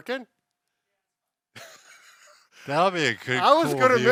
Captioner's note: laughs